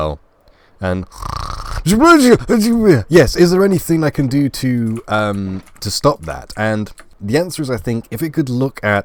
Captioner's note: snoring